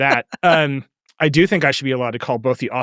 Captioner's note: laughing